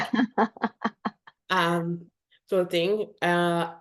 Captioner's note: is laughing